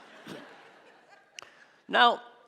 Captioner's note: audience laughing